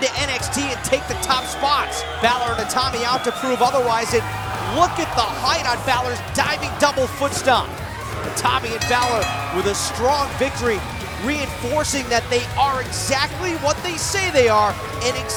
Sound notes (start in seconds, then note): 8.7 bell ringing